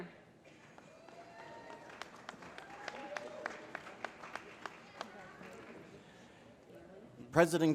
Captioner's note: applause